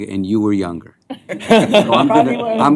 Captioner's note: laughter